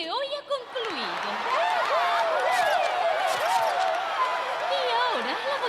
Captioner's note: cheering and applauding